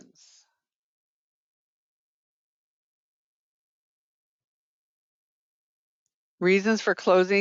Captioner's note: 5 seconds pause